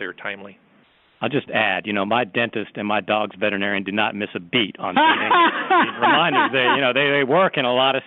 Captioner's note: laughter